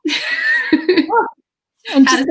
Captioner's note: laughs